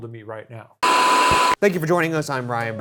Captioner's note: static crackles